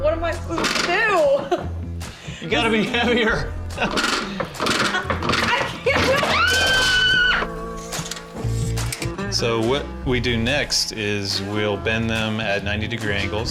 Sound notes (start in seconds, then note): 6.1 screams